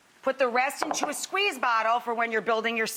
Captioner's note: none